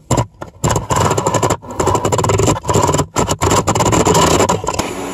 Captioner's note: motor spinning